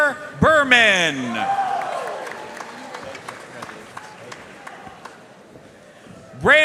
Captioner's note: audience cheering and applauding